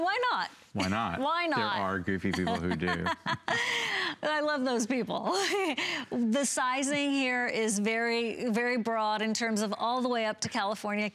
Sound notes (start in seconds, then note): 2.2 laughter; 5.3 laughter